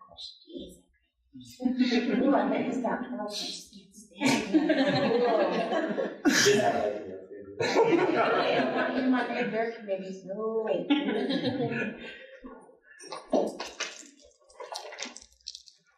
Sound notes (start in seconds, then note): 2.5 audience Laughing & Crosstalk